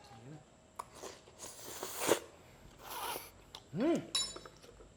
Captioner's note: slurps